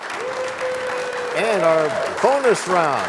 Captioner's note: cheers and applause